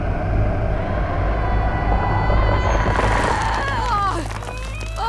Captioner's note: screaming